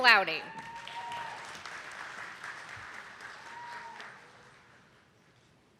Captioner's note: attendees clapping